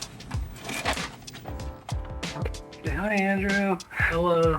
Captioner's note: VHS scraping